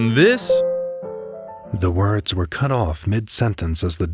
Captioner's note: ding